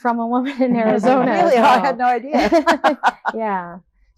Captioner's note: laughs